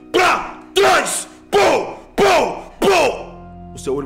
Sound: punch sounds

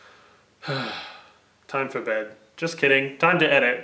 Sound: sighs

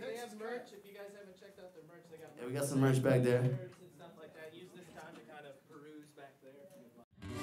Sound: background Chatter

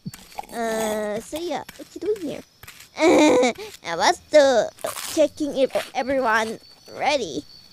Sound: laughs

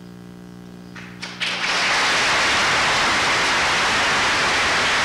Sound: applause

